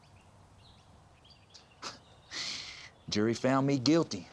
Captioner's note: laughs